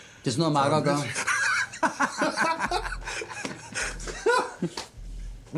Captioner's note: both laughing